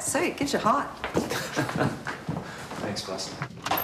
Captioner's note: chuckling